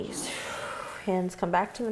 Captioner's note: exhaling